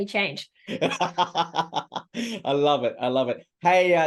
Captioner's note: laughter